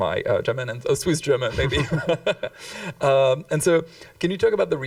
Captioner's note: chuckles